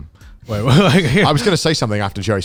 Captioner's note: laughs